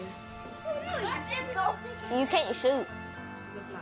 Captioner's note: kids jabbering